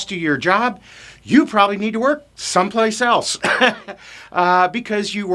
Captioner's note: laughs